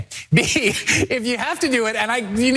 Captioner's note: laugh